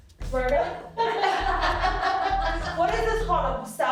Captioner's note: laughing